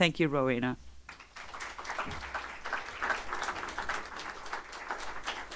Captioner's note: audience applauding